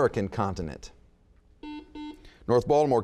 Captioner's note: buzzing